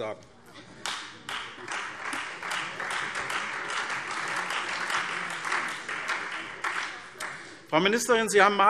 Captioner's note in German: Beifall SPD und Freie Demokraten